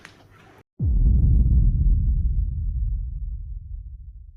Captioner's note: dramatic whoosh